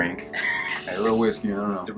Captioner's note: laughs